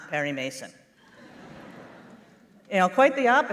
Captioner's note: laughter